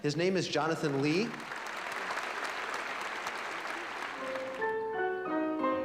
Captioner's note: applause; piano music